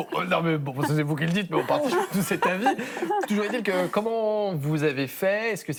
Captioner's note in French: rires